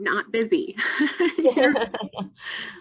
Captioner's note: laughter